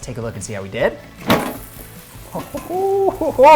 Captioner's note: basket banging